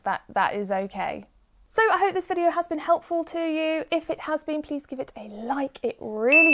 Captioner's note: 'ding' sound effect